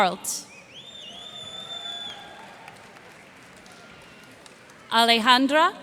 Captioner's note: cheers and applause